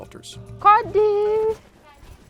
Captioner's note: woman calling out